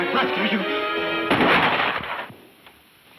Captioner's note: gun firing